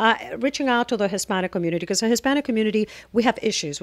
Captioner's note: Hablando ingl\s